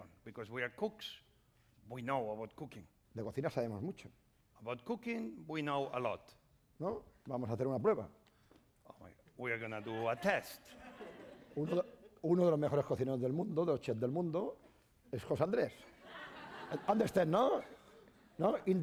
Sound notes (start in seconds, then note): 3.7 speaking spanish; 7.4 speaking spanish; 9.8 laughter; 14.2 speaking spanish